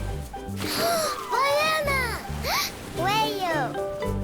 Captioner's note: speaking foreign language